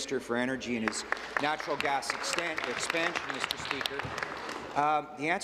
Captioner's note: some applause